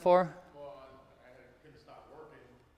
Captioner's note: speaks off microphone